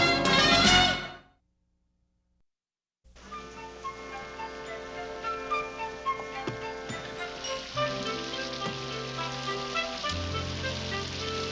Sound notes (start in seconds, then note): 5.8 rainfall